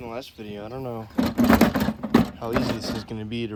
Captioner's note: broken headlight sounds